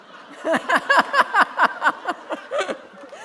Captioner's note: laughter